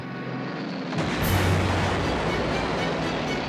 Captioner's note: explosions